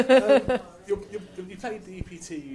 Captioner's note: laughs